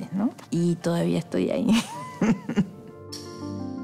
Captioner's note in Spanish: Riendo